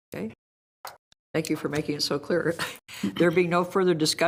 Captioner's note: laughs